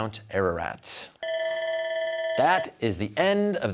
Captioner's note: bell ringing